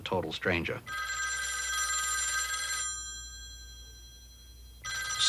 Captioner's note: phone ringing